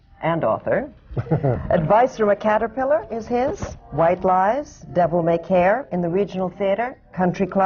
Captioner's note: laughs